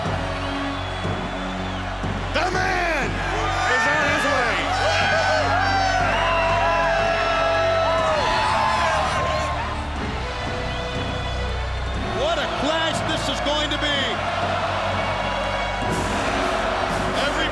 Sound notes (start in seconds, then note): 0.3 intense theme music; 5.1 crowd cheers